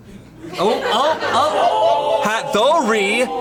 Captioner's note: colleagues laughing